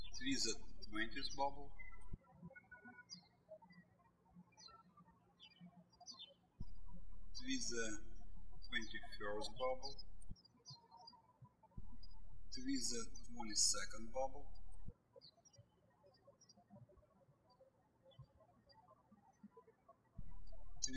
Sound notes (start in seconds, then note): 2.3 birds chirping; 11.8 birds chirping